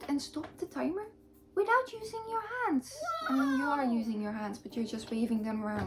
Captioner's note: woah sound